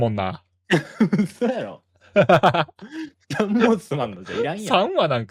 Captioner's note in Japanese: 笑い